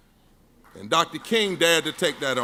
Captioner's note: audience claps